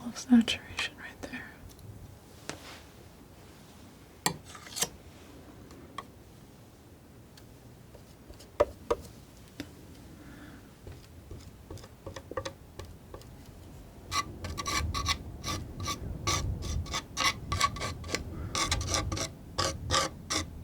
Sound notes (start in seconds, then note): 4.9 tapping